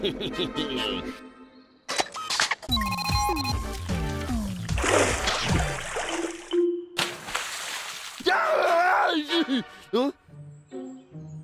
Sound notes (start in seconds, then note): 0.0 chuckles; 2.6 electronic beeping; 8.2 screaming